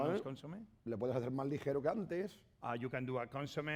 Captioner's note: speaking spanish